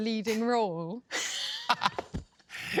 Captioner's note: laughter